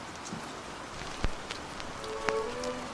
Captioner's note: record fuzz